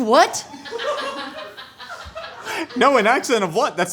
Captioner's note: laughing